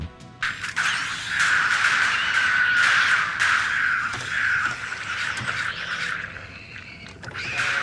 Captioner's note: unending series of shots and shrieks, as MacReady struggles to beat the game